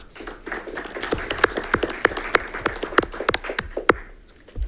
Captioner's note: audience applauds